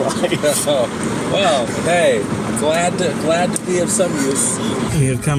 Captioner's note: laughs; Sarcastic